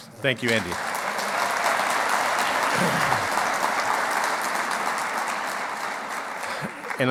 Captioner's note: clapping